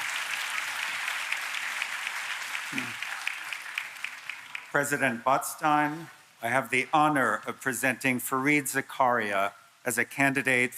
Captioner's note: applause